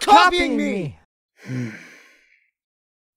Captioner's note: Ivan groans in annoyance